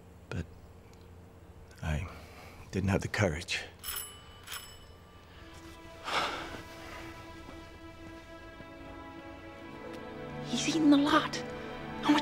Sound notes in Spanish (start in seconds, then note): 3.8 suena el timbre; 6.0 suspira; 7.6 música ligera